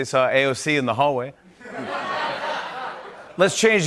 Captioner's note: laughter